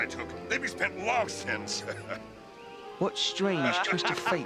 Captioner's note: laughing